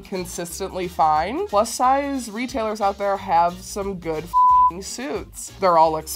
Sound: beep

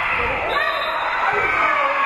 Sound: whistle being blown; spectators cheering and applauding

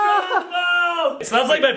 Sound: claps hands

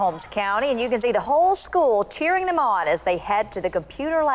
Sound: cheering

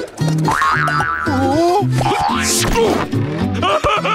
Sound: grunting; laughing

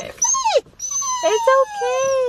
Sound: whining

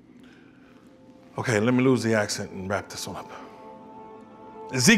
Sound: normal voice

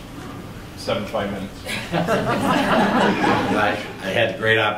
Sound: laughter

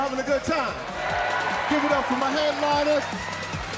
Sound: cheering

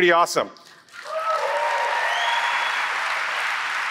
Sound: applause

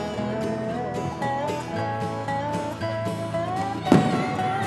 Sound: fireworks bursting

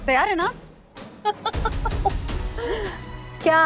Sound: Jyoti laughs

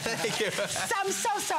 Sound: laughter

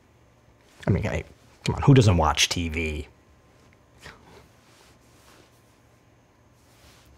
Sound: scoffs

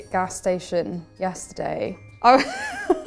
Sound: laughing

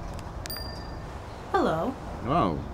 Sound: phone chimes

